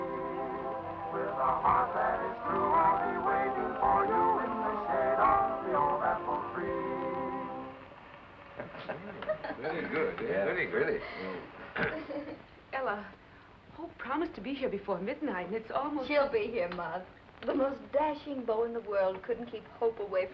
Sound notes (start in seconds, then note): 8.6 laughing